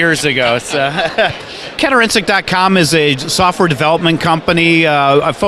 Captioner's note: laughter